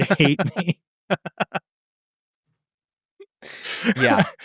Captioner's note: laughing